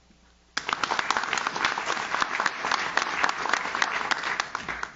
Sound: audience claps

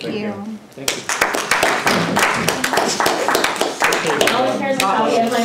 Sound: applause

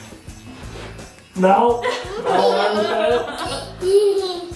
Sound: all laughing

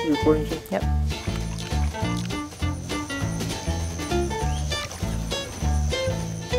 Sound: sound of fingers playing with water, playful guitar music; playful guitar music

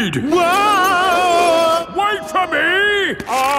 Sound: yelling

